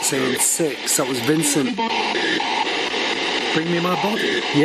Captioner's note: SB7 chattering